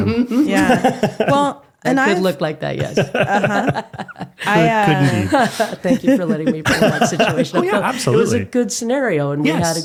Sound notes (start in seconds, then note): 0.0 laughing; 2.8 laughing